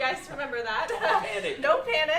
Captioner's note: laughter